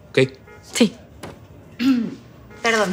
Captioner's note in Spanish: Carraspeo